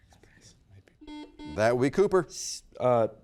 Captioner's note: button beeping